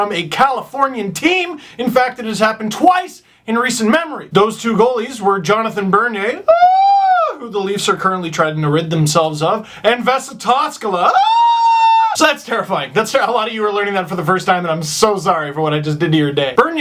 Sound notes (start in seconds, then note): 6.5 horror/disgust sound; 11.1 screams in horror